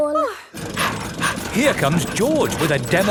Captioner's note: daddy pig panting